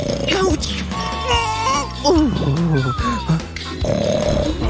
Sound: snoring

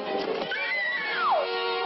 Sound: screams

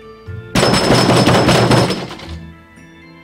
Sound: knocking

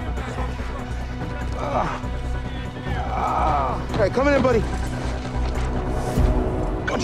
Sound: groaning

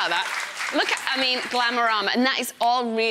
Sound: audience clapping

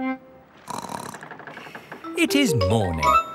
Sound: snorts

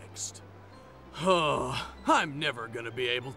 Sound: sighs

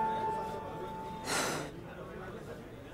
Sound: exhales

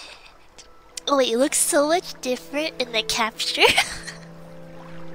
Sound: laughs

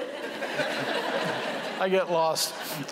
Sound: laughter

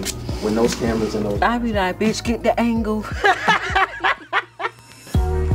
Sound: laughs; slow hip hop music

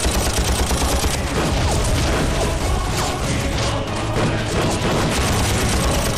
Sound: shooting

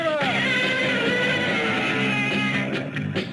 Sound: Gammera screams; upbeat rock music

